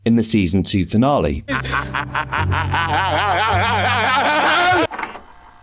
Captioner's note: laughter